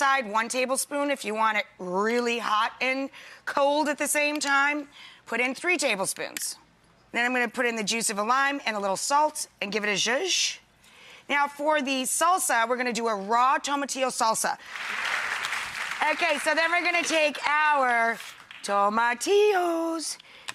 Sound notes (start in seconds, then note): 14.7 clapping